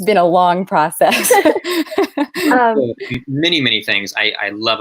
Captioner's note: laughing